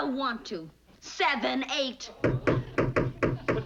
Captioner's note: hammering